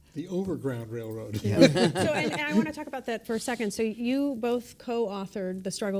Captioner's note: laughter